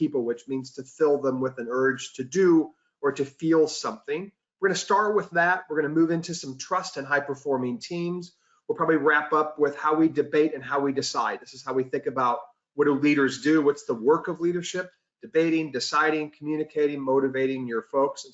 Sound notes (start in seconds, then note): none